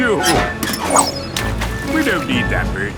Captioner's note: splashes